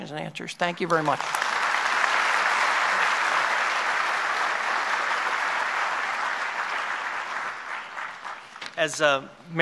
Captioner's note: applause